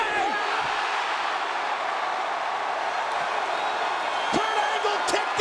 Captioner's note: audience cheering and clapping